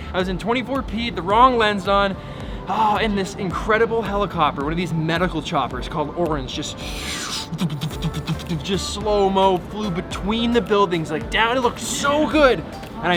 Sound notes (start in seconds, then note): 7.5 imitating helicopter blades